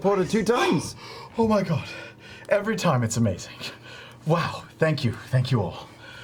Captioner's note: gasps